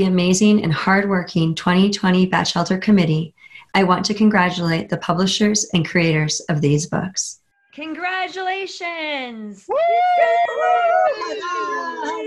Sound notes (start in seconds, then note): 9.6 cheering